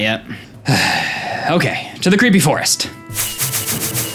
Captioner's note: siiigh